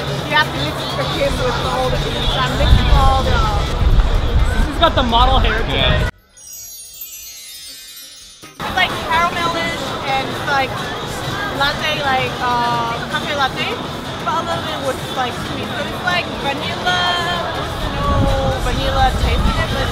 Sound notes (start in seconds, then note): 6.1 wind chimes